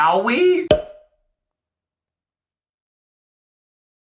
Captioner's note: slide pops